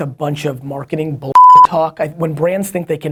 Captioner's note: beep